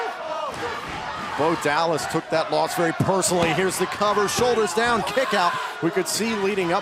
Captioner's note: chanting let's go neville